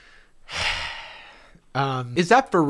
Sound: sighs

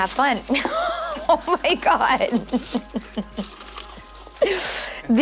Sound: laughter

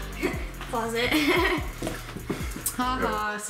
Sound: laughs

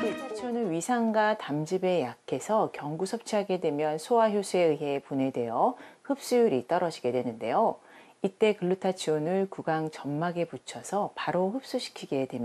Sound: voiceover

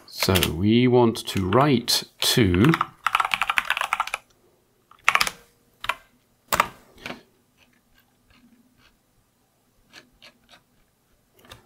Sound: typing

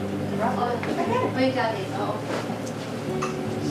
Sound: murmuring

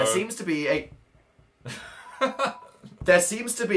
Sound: laughs

